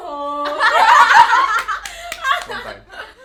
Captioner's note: girls laughing